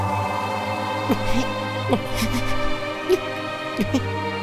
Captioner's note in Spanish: Matt solloza